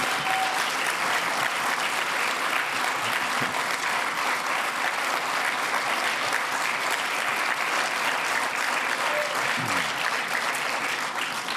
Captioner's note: cheers and applause